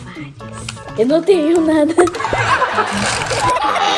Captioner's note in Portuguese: risada de bebê; risos